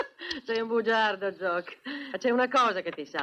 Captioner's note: chuckling